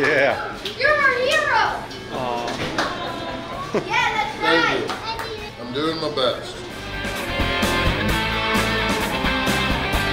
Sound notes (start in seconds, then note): 2.0 awwwww